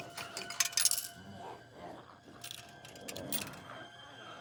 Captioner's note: quarter rattles